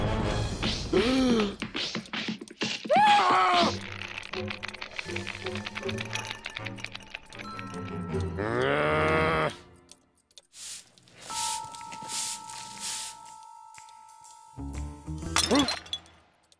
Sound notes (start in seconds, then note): 1.0 gasp; 2.9 screams; 8.4 growls; 14.9 crashing noise